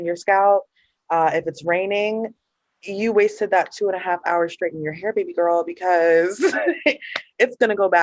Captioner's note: laughter